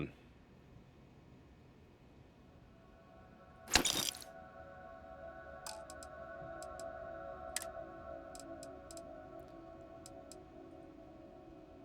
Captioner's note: sounds Of Guns